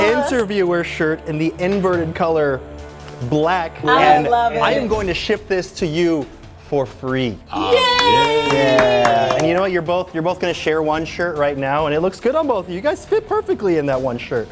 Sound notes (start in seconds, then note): 7.5 both clapping